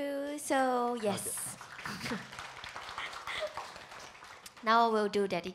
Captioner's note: audience applauding